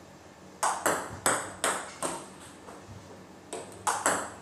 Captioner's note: ball ping pong hitting